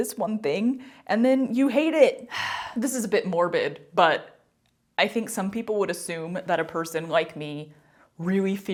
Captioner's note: sigh